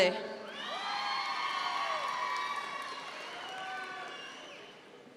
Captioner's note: audience members cheer